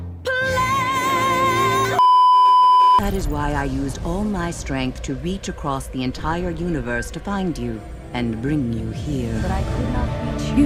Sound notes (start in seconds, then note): 2.0 beeeeeep